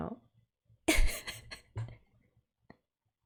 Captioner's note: laughs